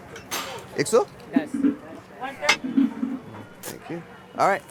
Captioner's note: speaking in Hindi